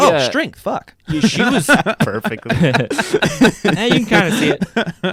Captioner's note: laughing